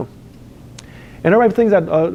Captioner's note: lip smacks